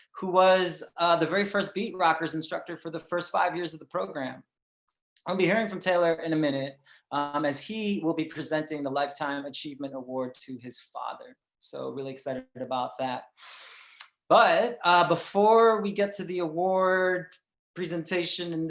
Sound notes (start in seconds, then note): none